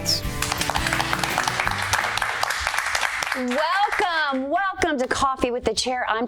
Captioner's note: applause